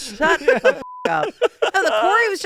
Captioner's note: beep